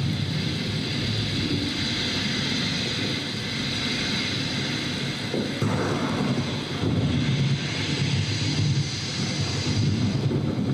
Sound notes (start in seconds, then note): 2.0 lightning crackles; 2.0 thunder roars